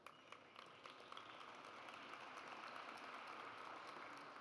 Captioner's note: audience applauds